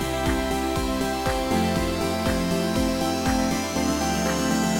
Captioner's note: applause